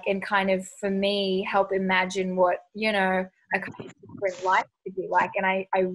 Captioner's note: audio distorts